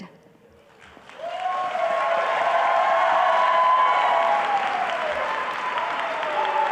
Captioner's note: audience applause